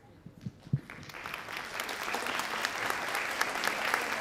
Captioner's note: audience applauds